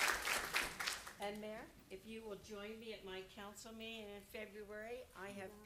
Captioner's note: applause